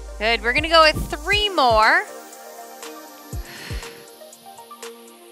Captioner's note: exhales